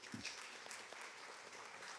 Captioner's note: applause